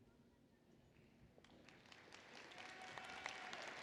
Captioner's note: applause